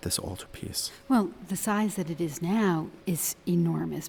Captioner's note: voiceover